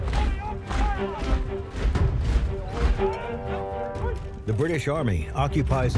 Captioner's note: dramatic violin music; marching